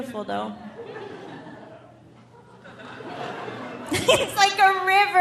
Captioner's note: audience laughing; laughs